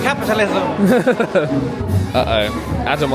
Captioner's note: chuckles